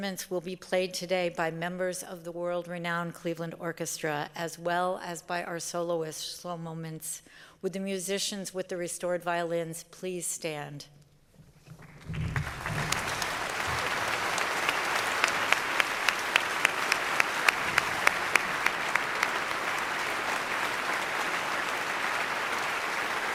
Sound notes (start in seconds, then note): 8.2 applause